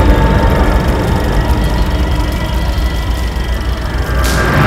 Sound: eerie music; film reel clicking

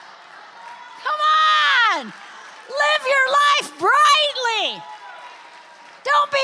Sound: congregation applauds

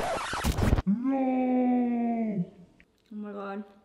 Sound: slow motion scream

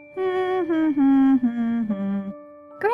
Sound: grandma hums

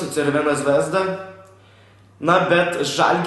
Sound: breath

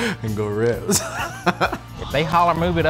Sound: laughter

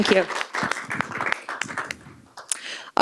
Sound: applause

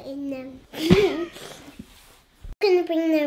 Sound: laughs

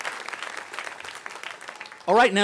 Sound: cheering; applause

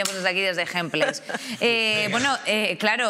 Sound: some laugh

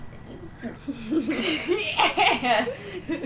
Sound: laughter

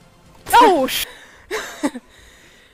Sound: laughs

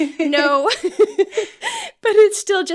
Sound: laughter

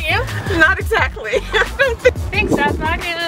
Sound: laughter

